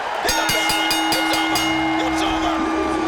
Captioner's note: bell rings